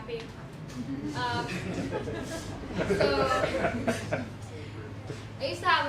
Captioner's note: laughter